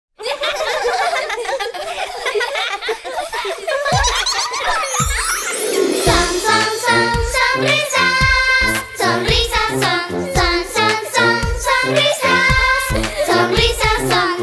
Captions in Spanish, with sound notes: (Música Alegre) ¡Oh! (Risas) Son son son sonrisas sonrisas son. Son son son sonrisas sonrisas son.